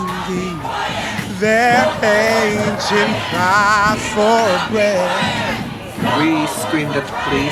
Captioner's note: people chanting